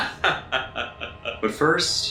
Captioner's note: evil laugh